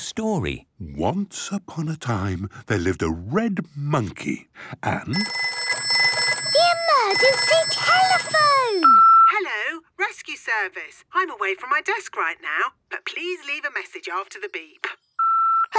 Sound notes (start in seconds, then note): 5.1 phone ringing; 8.8 answering machine; 15.2 beep